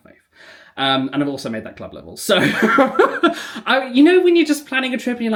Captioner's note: laughs